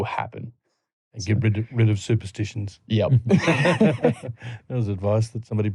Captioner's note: laughter